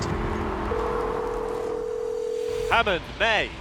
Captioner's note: phone rings